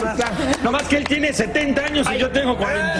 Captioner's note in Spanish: risas